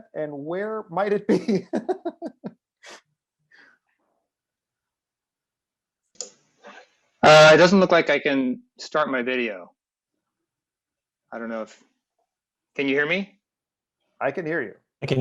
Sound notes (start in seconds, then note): 1.2 laughs